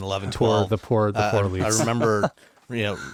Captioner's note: laughs